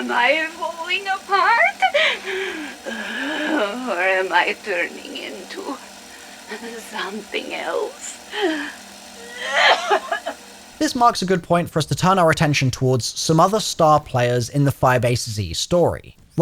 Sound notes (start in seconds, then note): 1.9 wheezes; 9.2 coughs